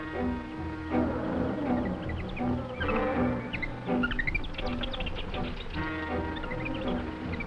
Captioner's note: gorillas groaning; jungle animals chattering; tense music; gorillas groaning